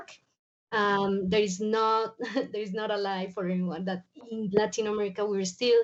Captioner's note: chuckles